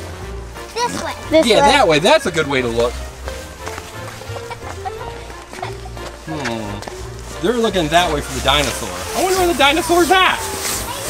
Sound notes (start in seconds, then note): 3.2 footsteps; 4.2 laughing